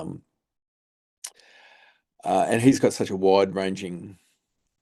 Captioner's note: lip smack